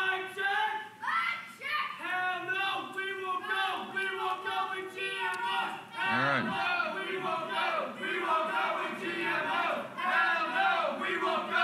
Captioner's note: protestors chanting